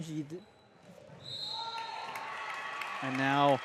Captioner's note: whistle blows